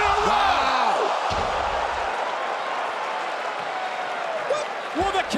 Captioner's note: audience cheering